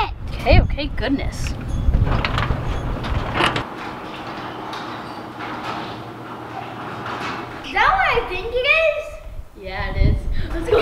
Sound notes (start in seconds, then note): 1.3 garage door opening